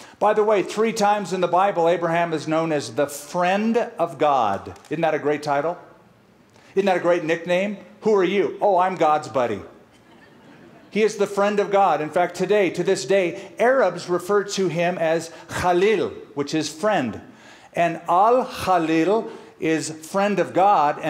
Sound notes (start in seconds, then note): 15.1 speaking arabic; 18.1 speaking arabic